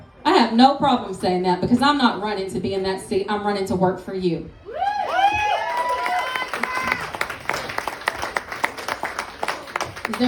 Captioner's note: applause